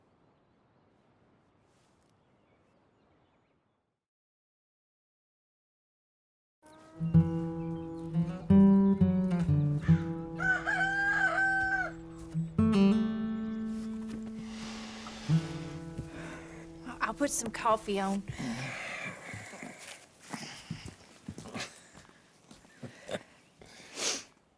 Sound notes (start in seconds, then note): 7.1 the next morning. A rooster crows